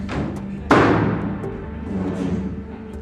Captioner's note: door slams